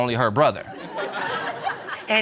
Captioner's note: audience laughing